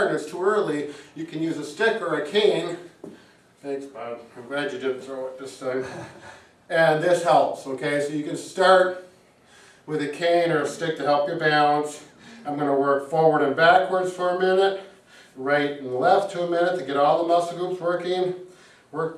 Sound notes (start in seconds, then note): 5.7 chuckles